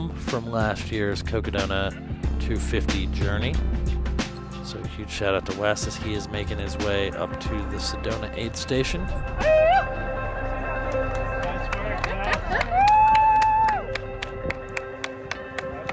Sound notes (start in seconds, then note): 9.2 man yelling; 9.2 people chattering; 11.0 people cheering; 14.1 people clapping